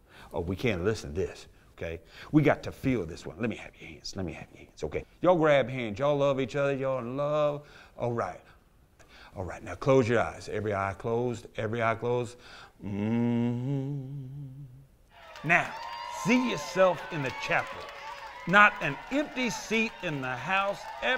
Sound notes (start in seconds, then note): 12.8 humming